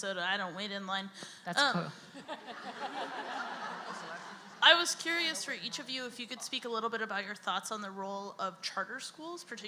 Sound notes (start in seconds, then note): 2.2 audience laughs; 4.7 voiceover